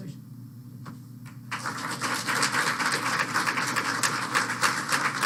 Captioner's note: applause